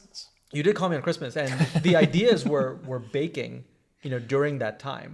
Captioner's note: laugh